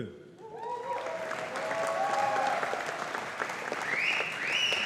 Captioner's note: audience applauding